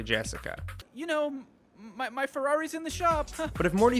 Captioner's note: laughs